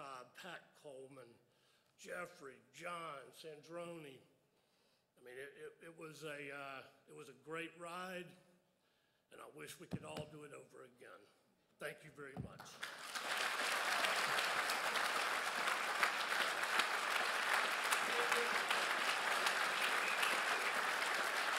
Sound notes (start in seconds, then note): 12.6 crowd applauds